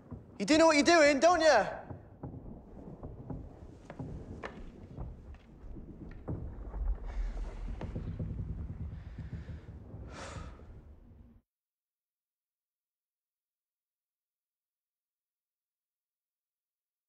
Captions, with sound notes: You do know what you're doing, don't you? [SIGHS]